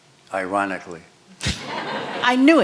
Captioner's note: laughter